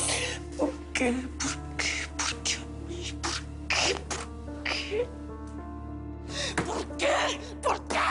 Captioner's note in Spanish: Llorando